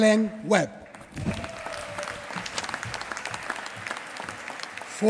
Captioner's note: applause